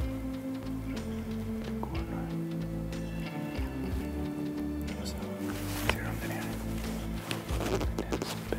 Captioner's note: whispering